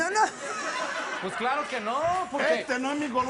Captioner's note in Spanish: Risas